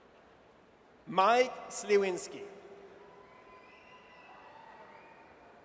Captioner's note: audience cheers